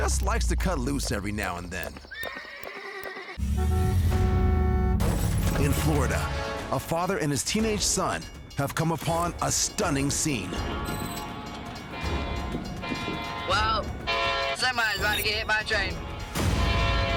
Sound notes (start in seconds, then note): 2.1 horse neighing; 11.9 train horn blowing